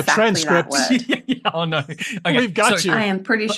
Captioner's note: laughs